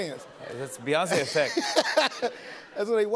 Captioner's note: laughter